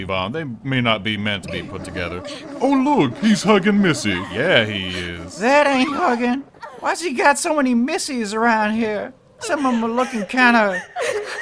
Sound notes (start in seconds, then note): 3.9 sexy time sfx; 6.5 sexy time sfx; 9.3 sobbing